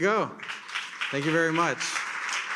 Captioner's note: attendees applaud; attendees continue applauding